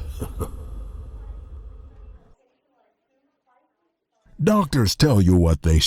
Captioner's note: overhead hospital paging